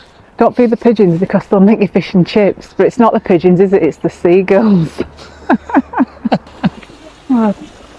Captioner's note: laughter